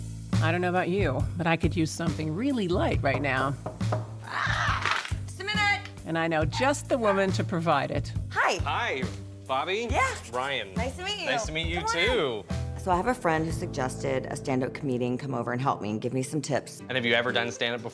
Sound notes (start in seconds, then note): 3.0 knocking; 6.9 dog barking